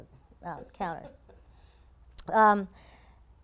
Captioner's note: laugh